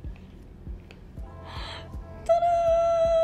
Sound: gasping

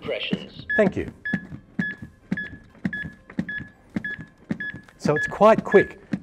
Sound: AED beeping regularly

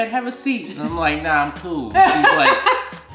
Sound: laughing

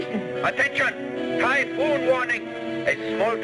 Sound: radio Announcer

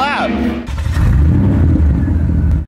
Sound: engine revs

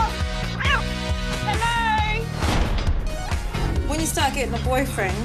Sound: cat meows

